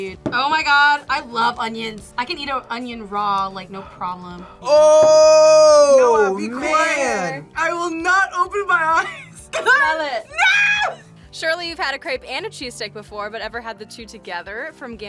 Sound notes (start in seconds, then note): 9.2 laughs